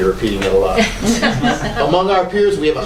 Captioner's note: laughter